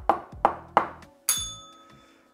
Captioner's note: bell rings